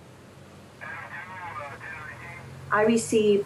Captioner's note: radio static drowns out conversation